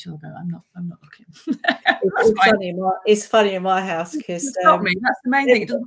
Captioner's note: laughing